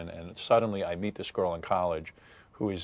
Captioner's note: none